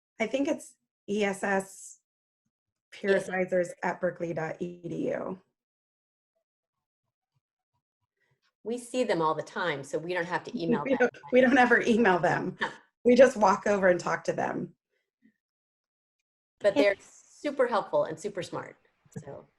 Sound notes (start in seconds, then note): 10.7 laughs